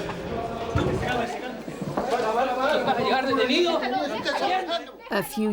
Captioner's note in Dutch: man spreekt in vreemde taal